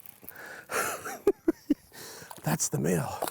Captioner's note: chuckle